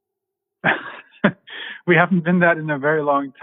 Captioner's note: laughing